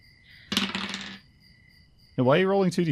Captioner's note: ominous dice clacks